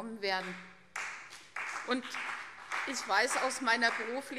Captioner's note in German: Beifall CDU und vereinzelt BÜNDNIS 90/DIE GRÜNEN